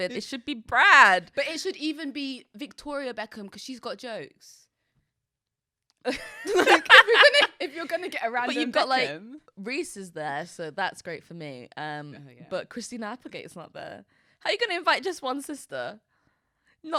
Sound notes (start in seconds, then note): 6.0 both laughing